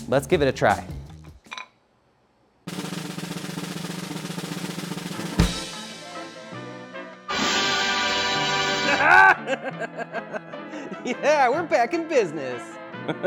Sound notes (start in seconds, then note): 2.6 drum roll plays; 7.8 playful upbeat music; 8.8 laughs